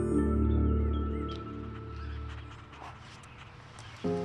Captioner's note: birds chirping